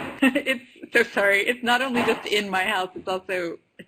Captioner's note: laughs